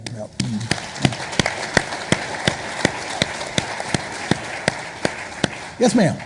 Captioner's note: audience applauding